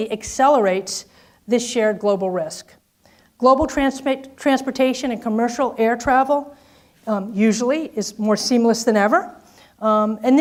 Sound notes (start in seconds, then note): none